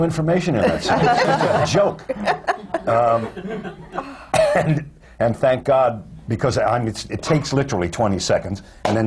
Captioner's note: laughs